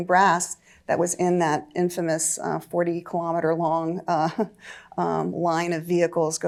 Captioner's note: chuckles